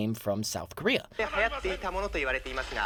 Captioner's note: speaking japanese